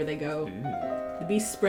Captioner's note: quietly